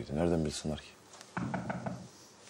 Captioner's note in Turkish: Kapı çalıyor